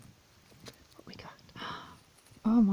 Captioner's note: gasp